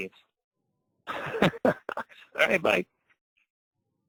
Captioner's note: laughs